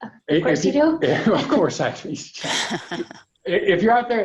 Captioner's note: laughs